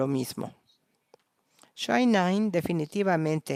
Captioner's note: a través de intérprete